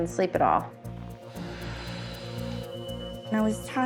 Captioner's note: sighs